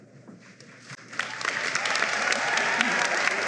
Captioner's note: applause